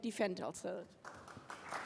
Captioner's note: applause